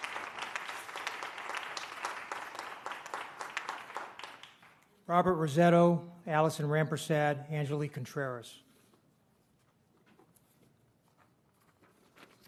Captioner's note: applause